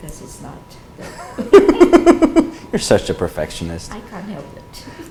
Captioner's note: laughs